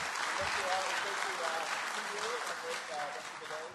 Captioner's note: applause